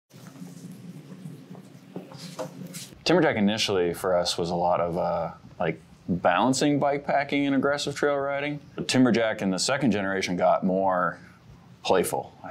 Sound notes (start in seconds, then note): 0.2 eraser cleaning the board